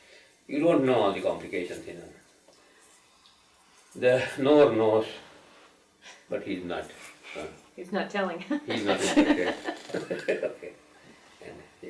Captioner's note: laughter